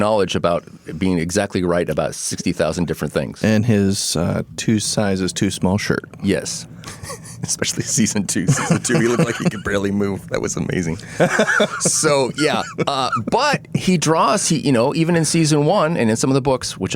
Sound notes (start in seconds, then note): 8.4 laughing